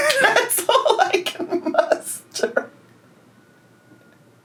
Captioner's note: laughing